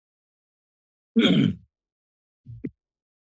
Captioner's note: clears throat